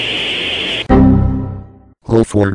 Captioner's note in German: windows xp fehler